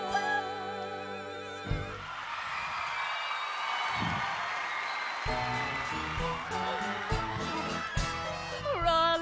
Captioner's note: cheers and applause